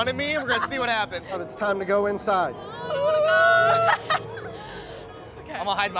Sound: laughs

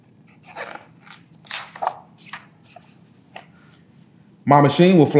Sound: pages rustling

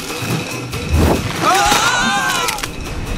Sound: Chou brothers scream as they fall

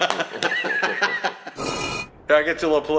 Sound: laughs

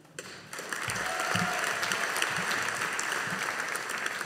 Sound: audience applauding

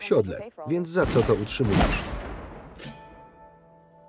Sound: gunshots

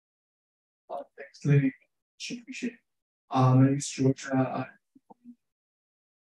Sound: speaking faintly

